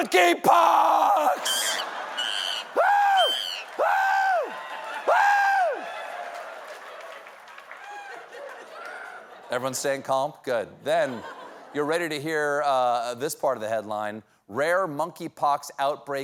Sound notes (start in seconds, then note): 4.2 screaming monkey